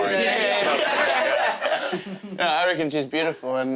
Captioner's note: laughing